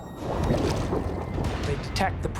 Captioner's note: bubbles popping